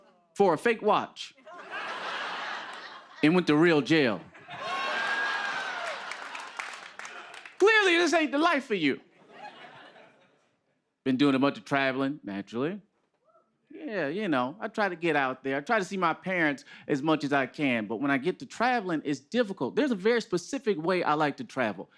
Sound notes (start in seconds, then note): 1.4 laughter